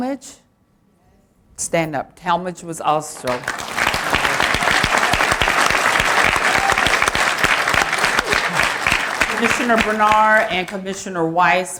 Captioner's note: applause; applause